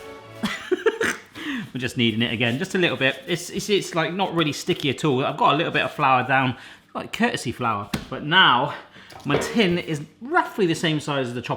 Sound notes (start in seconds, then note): 0.6 laughs